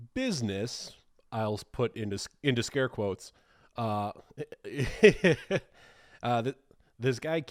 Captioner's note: chuckling